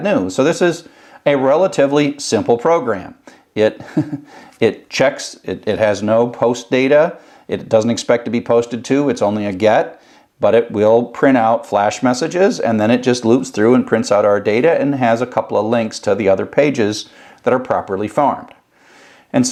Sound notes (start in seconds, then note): 3.8 laugh